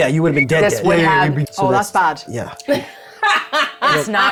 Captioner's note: laughing